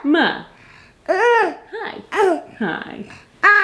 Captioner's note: vocalizing; vocalizing